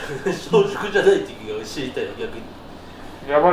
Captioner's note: laughs